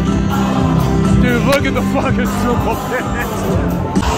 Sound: laughs

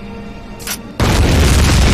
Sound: metal click; loud explosion

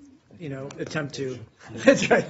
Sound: laughter

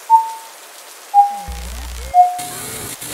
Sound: beeps distorting; electrical buzzing and zapping

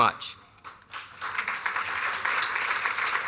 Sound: applause

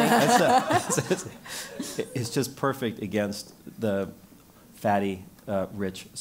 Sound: laugh

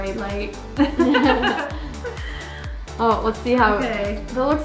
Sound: laughter

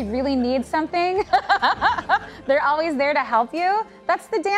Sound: laughing

